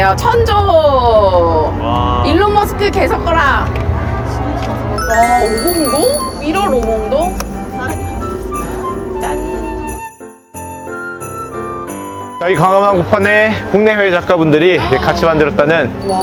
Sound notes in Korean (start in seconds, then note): 5.0 반짝이는 효과음